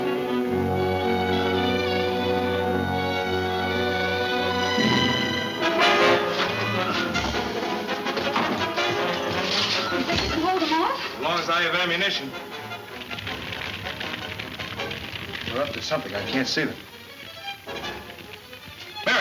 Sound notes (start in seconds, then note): 5.8 exciting orchestra music; 13.1 flames crackling